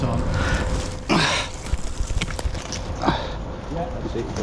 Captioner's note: grunting